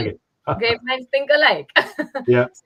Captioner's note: laughs